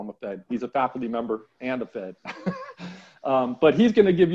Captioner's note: chuckling